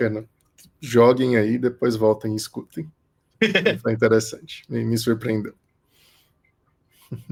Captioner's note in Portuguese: risos